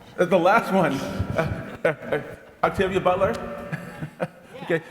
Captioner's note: laughs